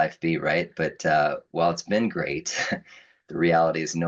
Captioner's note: chuckles